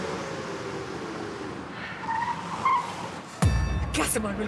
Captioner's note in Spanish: ruidos del auto